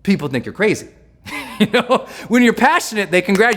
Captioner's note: laughs